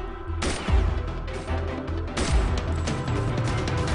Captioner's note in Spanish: Disparos